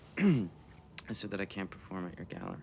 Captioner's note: Adrian clears his throat